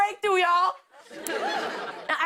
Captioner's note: laughter